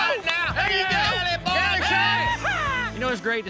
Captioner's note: all shouting, whistling